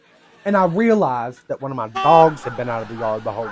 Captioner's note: beep